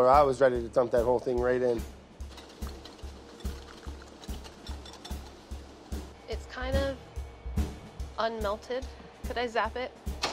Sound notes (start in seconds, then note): 2.3 whisk clinking on bowl